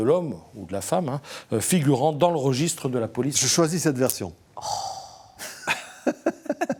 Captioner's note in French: rires